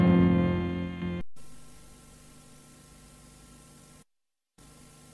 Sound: VHS static

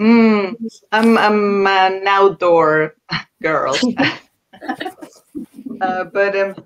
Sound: laughs

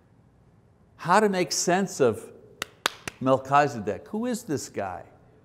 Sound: clapping

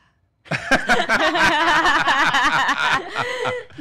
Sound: laughing

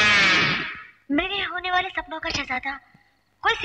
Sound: voice Over The Tape Recorder

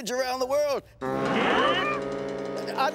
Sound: all gasp

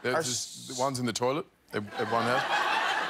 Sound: laughter

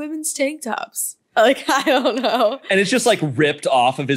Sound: laughs

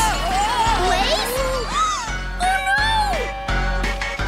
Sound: gasps

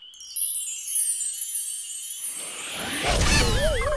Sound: chimes sound; explosion

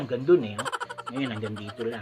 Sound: funny laugh

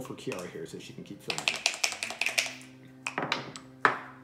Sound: dice shaking

